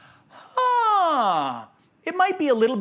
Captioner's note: sighing